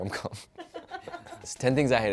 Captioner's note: producer laughs